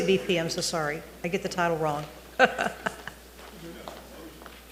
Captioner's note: chuckles